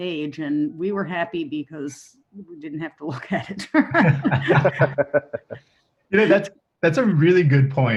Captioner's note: laughs